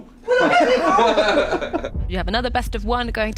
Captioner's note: everyone laughing